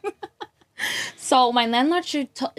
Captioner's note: laughs